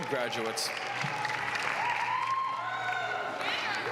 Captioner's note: applause